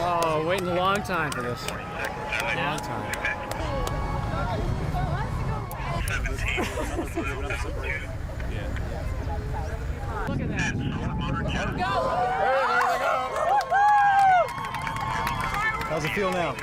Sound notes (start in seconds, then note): 4.1 garbled radio transmission